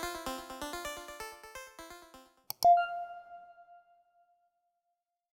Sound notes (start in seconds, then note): 2.5 mouse clicks; 2.7 bell chiming